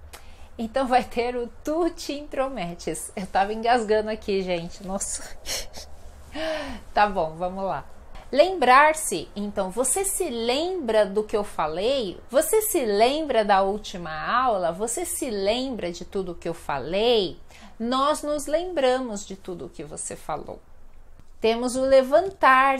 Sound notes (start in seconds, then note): 5.1 laughs